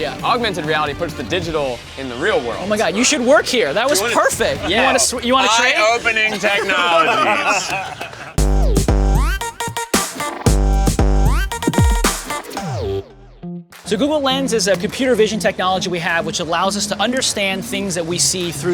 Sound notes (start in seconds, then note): 7.5 all laugh; 8.3 techno music